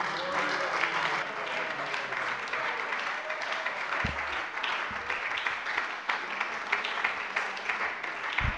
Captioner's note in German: Beifall bei der SPD - Zurufe von der CDU: Oh!